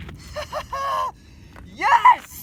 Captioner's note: laughs